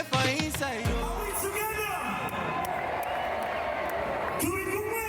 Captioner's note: crowd cheering